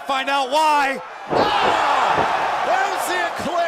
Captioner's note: cheers & applause